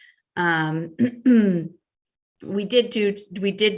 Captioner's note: clears throat